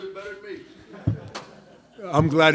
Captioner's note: crowd laughing